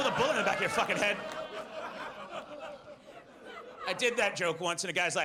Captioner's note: audience laughs